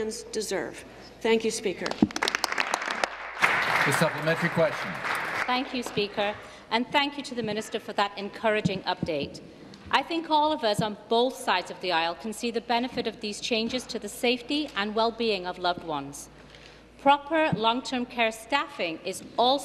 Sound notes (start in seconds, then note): 6.3 applause